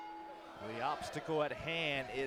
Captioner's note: bell ringing